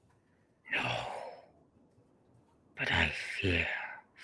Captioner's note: heavy voice